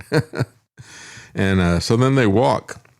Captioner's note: laughs